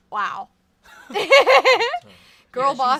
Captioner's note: laughs